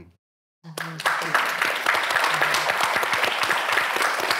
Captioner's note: audience applauding